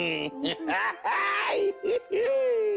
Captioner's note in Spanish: Risas